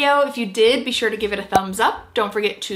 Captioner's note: graphic popping